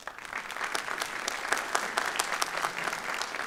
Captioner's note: applause